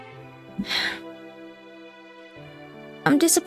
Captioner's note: depressed Sigh